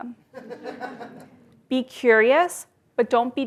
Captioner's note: laugh